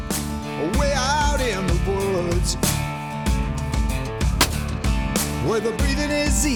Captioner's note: gunshot